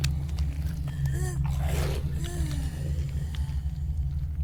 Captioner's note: lock groans